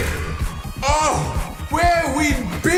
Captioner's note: orgasmic swoon